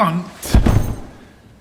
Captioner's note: thud